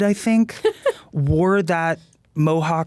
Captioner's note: laughing